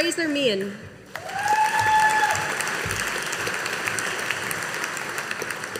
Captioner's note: audience applauding